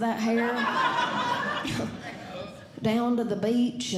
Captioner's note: audience Laughing